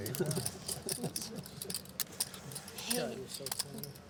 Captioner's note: laughter